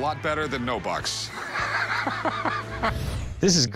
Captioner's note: laughs